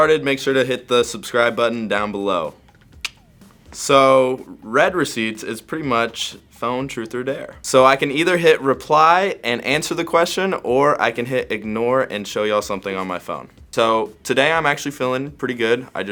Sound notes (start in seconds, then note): 2.7 clicks tongue